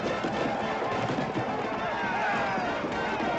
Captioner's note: crowd clamoring